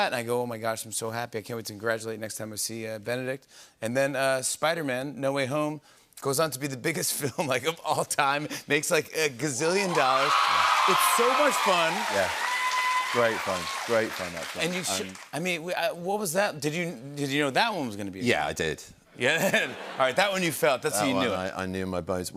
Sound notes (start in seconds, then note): 9.8 cheers and applause; 19.3 laughter